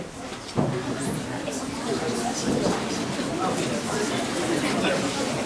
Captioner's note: audience murmuring